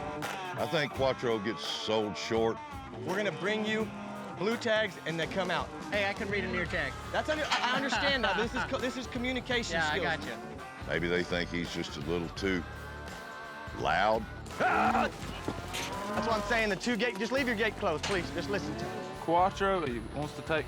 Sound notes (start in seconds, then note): 15.2 yelling